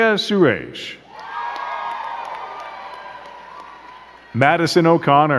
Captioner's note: crowd cheering and clapping